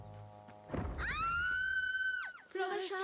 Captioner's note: scream